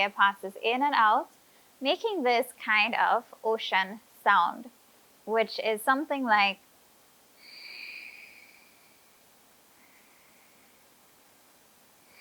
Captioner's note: audible ujjayi breathing